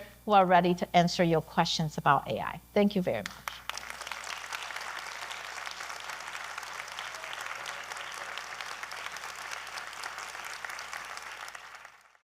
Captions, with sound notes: who are ready to answer your questions about AI. Thank you very much. (audience clapping)